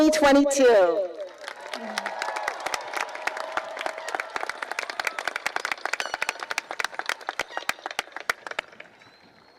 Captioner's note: cheering and applause